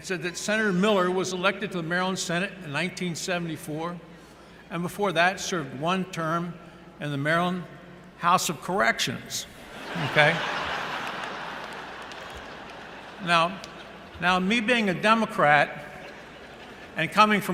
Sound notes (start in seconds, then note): 9.6 laughter